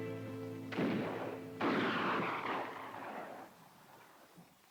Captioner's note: distant guns fire